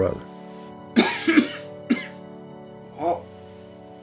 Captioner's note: coughing